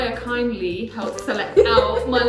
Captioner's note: laughs